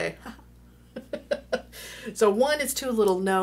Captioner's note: laughing